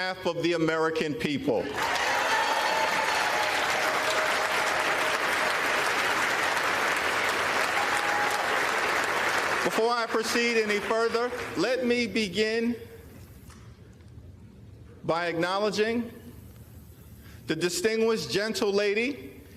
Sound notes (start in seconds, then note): 9.6 applause